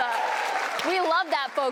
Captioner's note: cheers and applause